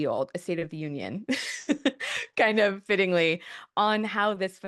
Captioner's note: laughs